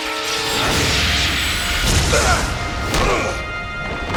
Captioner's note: grunting